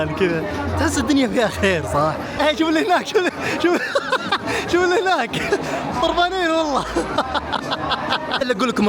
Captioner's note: laughs